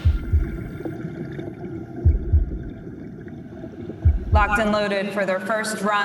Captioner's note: heart beat